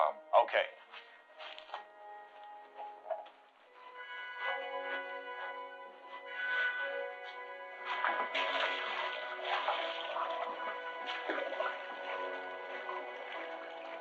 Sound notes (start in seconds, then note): 3.7 suspenseful music; 7.7 water splashing